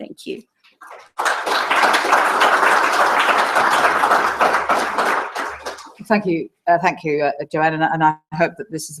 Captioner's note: applause